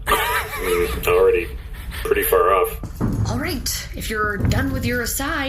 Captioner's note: excited